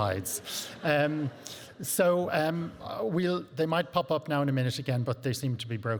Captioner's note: audience laughing